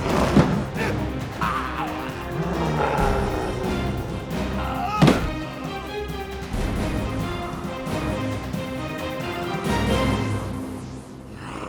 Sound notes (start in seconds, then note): 0.0 gargling; 4.6 adventurous music